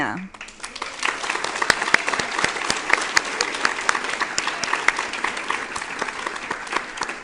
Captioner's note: applause